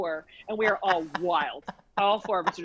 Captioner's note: laughs